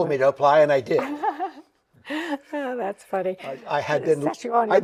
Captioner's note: chuckles